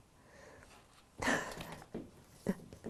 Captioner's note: laughing